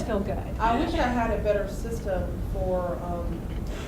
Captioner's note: voiceover